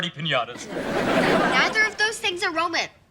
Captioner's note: audience laughing